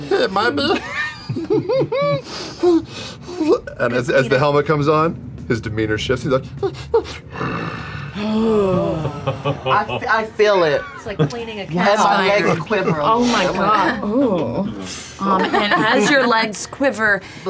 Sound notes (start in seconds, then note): 0.0 laughs; 6.7 cute whines; 7.2 growls; 7.3 oohing; 8.2 laughs